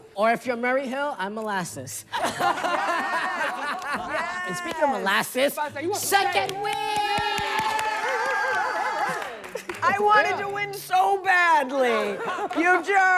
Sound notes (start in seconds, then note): 2.2 everyone laughing; 6.6 everyone cheering